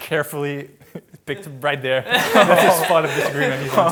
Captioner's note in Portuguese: risos